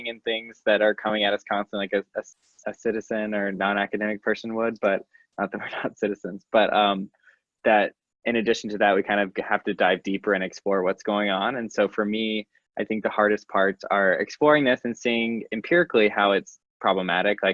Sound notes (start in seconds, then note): 5.6 laughing